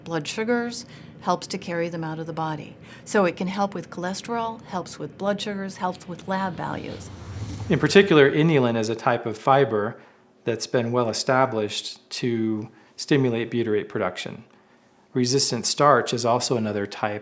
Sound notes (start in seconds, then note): 7.2 whooshing